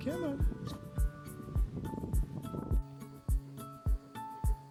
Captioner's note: upbeat music; speaking in foreign language; upbeat music